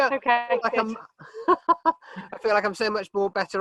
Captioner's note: laughs